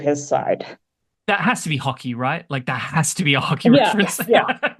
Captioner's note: laughs